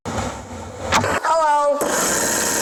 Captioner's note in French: microphone à gratter; ventilateur vrombissant